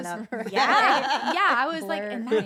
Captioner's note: laugh